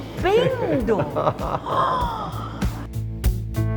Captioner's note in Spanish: laugh